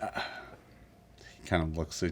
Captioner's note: sighs